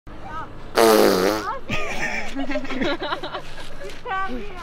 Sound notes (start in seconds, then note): 0.7 boy blows lips; 1.6 laughter